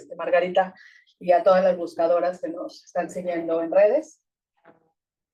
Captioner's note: speaking Spanish